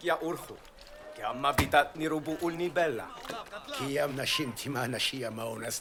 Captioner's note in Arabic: الصوت المنطوق البدوي